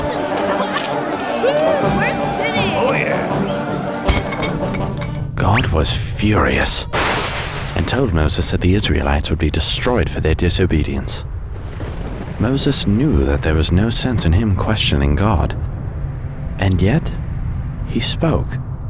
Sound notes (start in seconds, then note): 5.7 thunder booms